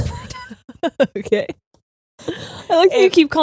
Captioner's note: laughing